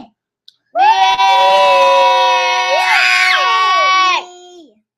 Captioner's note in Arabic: للأطفال يهتفون معا